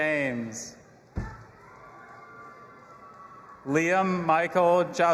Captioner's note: audience applauding and cheering